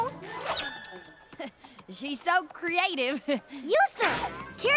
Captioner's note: chuckles